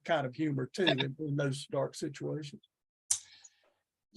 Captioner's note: chuckles